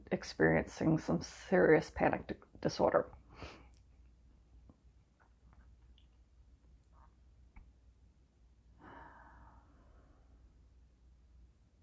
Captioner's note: deep breath